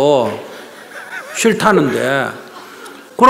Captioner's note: questioner Laughter